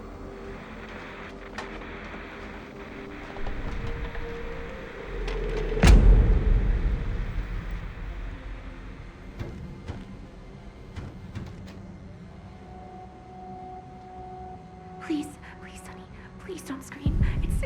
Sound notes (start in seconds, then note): 5.4 static continues hissing; 12.5 ominous music